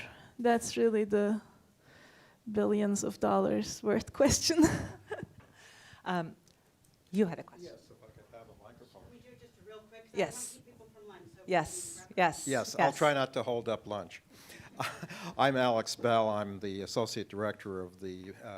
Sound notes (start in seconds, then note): 4.5 laughter